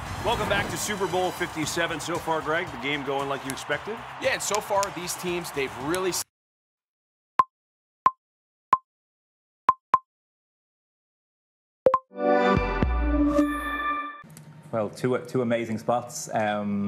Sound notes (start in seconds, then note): 0.0 dramatic music; 7.3 tone beeping; 11.9 tone beeps; 11.9 futuristic music